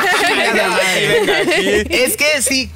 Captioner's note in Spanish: Risas